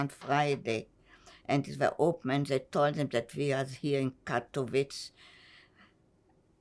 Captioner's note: german